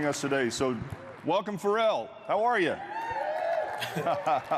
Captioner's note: applause